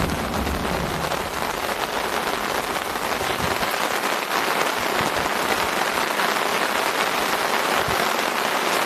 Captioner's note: torrential rains